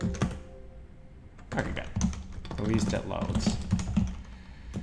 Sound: insert random windows sound here

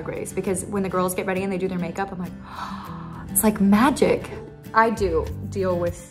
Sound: gasps

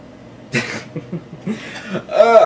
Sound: laughs

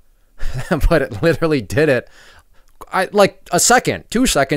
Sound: laughs

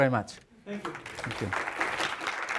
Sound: audience applauding

